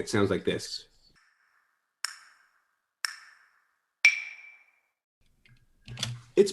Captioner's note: metronome clicking loudly